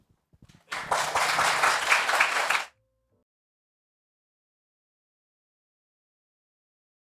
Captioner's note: audience applauds